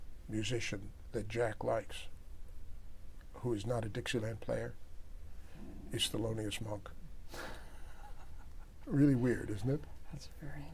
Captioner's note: laughter